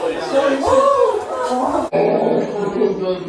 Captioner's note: whooping